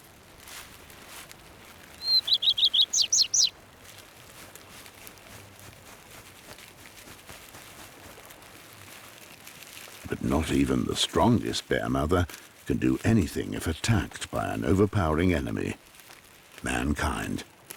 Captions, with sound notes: [bird tweets] But not even the strongest bear mother can do anything if attacked by an overpowering enemy: Mankind.